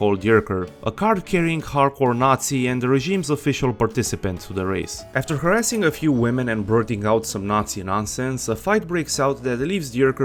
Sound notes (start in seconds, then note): none